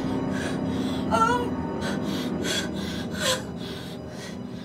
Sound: breathing heavily

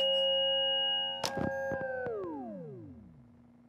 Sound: machine switching off

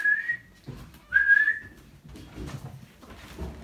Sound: whistle

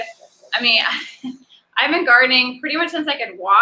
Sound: laughs

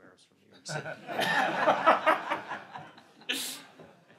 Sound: laughs

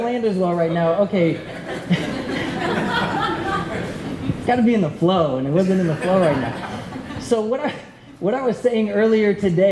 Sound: laughter

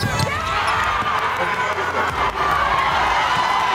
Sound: cheers and applause

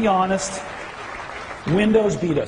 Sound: audience applauding

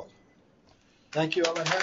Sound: applause

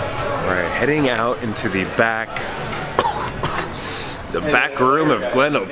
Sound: coughs

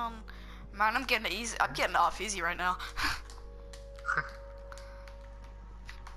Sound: awkward Laugh; slightly more awkward laugh

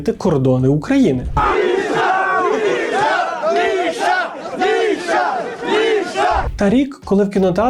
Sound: the crowd chants "Misha"

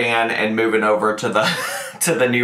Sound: laughs

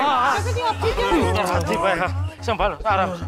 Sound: indistinct chatter

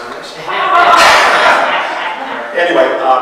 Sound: audience laughs

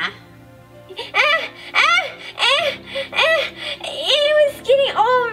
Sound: lightly yells

